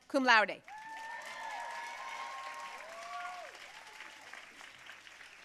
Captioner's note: audience cheering and applauding